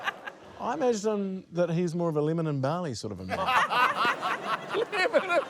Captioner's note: laughter